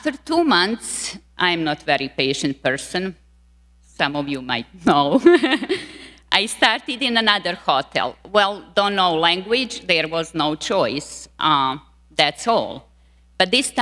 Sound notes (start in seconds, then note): 4.9 laughing